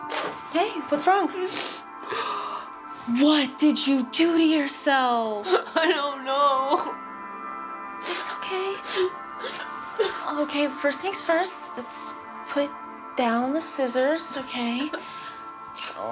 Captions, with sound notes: - Hey, what's wrong? (gasps) What did you do to yourself? - I don't know (sobs)! - It's okay. Okay, first thing's first, let's put down the scissors. Okay.